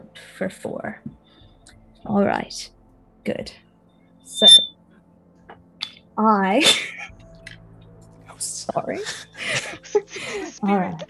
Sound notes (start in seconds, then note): 4.3 mic squeaks; 8.9 cast giggling